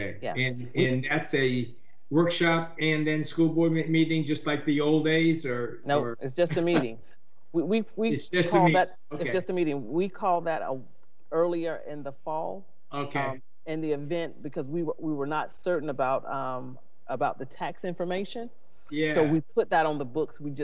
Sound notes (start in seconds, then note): 7.1 laughs